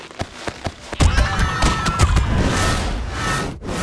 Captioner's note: screams